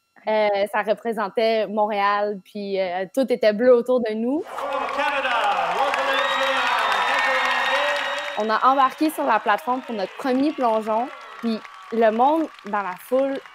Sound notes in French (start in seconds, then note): 5.3 applaudissements